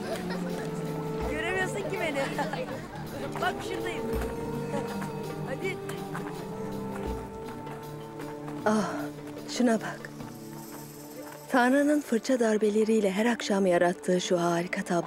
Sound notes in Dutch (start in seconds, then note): 2.1 gelach